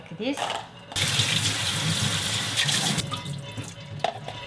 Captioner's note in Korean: 물 튀는 소리